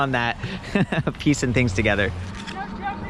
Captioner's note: laughs